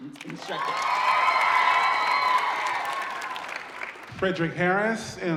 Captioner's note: audience cheering